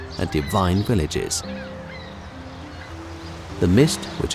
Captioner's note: seagulls squawking